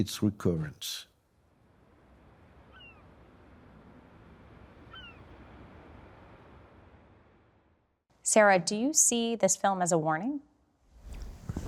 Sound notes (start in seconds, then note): 2.4 sea gull squawking; 4.8 waves lapping